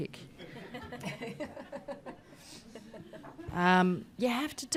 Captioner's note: audience laughs